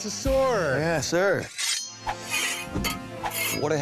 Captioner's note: swords clanging